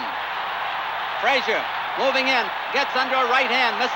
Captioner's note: crowd cheering continues